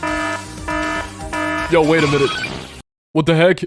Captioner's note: alarm noises